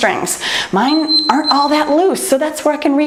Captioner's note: timer beeps